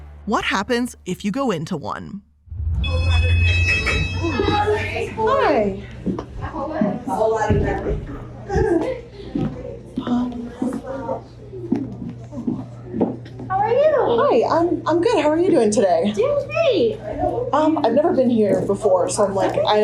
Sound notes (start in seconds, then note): 2.5 beeping sound; 7.4 footsteps thumping